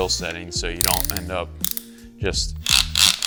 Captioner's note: dial clicking; drill revving